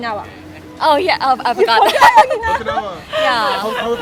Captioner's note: laughing